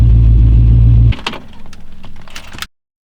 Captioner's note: click, engine off